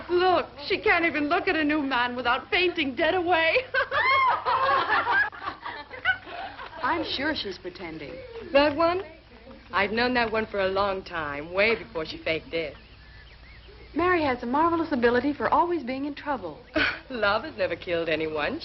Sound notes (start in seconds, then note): 3.4 girls laughing